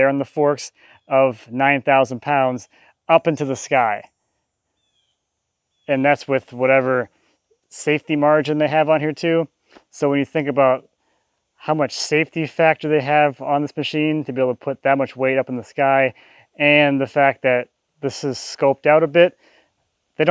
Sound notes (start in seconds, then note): none